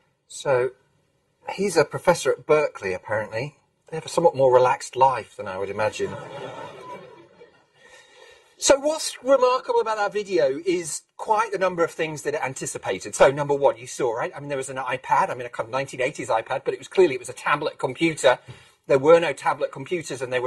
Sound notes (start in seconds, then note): 6.0 laughter